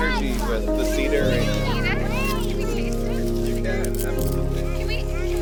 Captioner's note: children clamoring